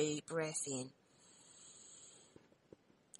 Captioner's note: audible inhalation